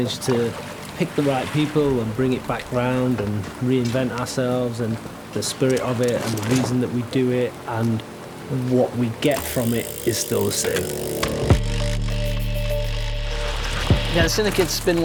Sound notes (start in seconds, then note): 9.4 wheel spinning; 11.7 dramatic music